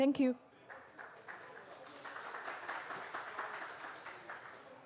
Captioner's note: applause